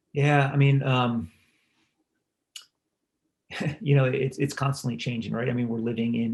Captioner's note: laugh